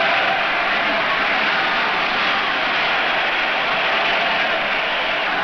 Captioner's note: crowd cheers